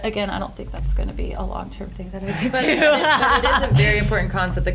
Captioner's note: laughs